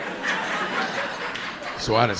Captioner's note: audience laughing